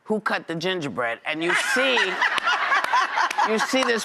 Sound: audience laughs

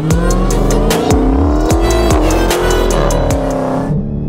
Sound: engine running

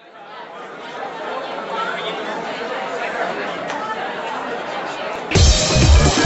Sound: crowd chattering; upbeat electronic music

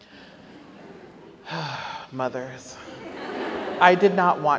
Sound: audience laughs; sighs; audience laughs

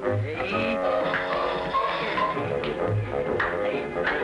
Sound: slapping

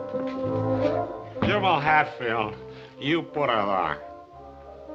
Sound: drunkenly

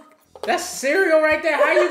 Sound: laughs

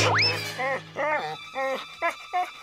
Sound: whining

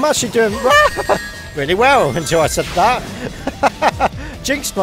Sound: laughter

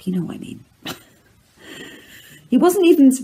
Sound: laughs

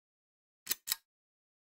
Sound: click

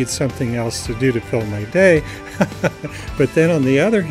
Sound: laughing

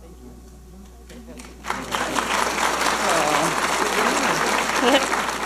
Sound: audience applauding; laughing

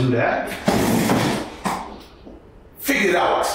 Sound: chair skidding

